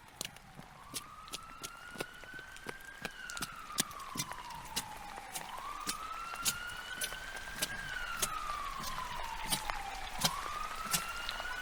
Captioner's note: sounds of distant shouting and footsteps running in the rain; sound of ambulance wailing in the distance